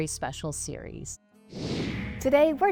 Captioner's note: computer whooshing